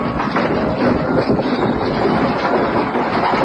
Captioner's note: objects break